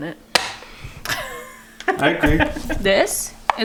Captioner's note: laughs